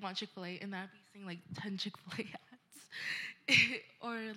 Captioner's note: chuckling